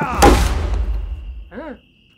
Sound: crickets

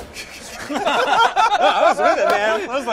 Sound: laughs; laughter

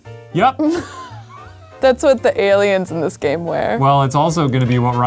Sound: laughs

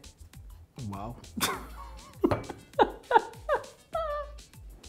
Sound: laughing

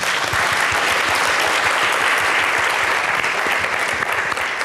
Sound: audience applauding

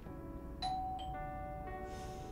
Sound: doorbell rings

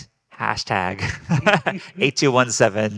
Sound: group laughing

